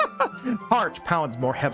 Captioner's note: laughs